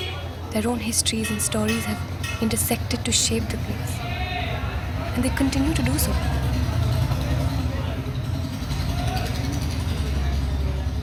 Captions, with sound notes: Their own histories and stories have intersected to shape the place. And they continue to do so. (sound of a motorbike)